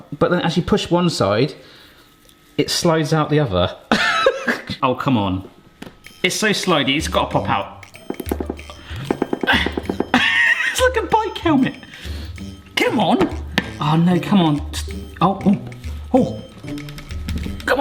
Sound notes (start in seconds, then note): 4.0 laughing; 7.8 whimsical music; 7.9 bowl banging; 9.4 laughing